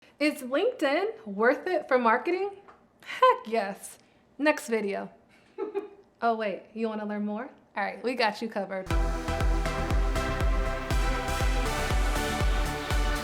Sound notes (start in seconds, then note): 5.5 laughs; 8.9 lively music